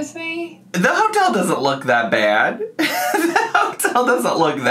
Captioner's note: laughs